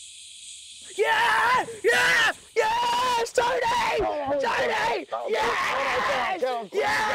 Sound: sam cheers

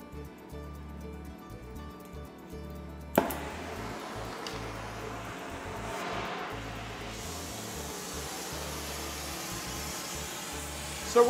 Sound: sounds of fire and working

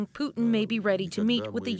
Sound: speaking alternate language

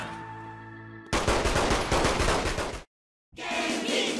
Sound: victorious shooting

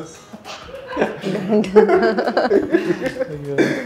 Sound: laughing

